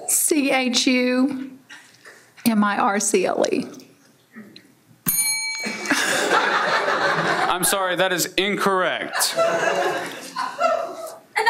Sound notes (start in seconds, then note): 5.0 bell dings; 5.8 everyone laughs